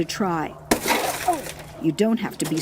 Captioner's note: glass shatters